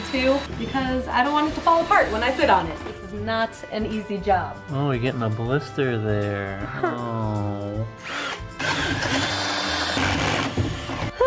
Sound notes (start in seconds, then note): 6.6 sarcastic sad noises; 7.9 drilling noises